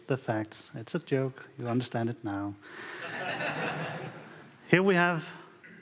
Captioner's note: audience laughing